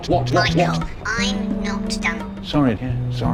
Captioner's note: through speaker